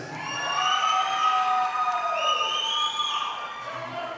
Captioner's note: audience applauding